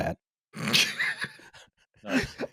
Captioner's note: snorts, laughs